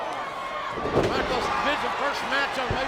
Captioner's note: body thuds